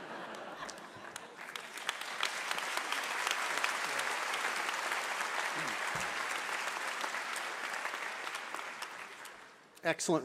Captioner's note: laughter and applause